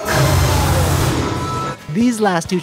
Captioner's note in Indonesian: Bunyi ledakan